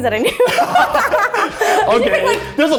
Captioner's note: both laughing